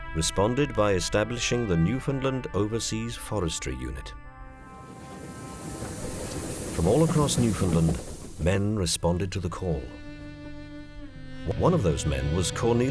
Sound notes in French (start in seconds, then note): 4.6 Bruit de train